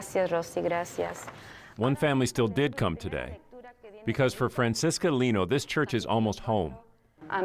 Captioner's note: speaking spanish